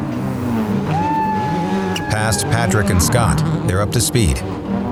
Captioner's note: whoops